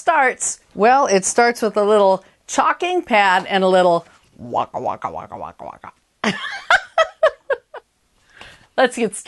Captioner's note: laughter